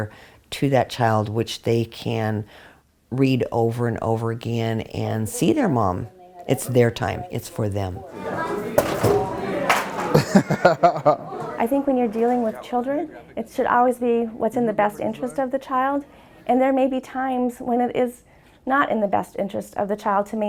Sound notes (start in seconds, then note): 8.0 laughing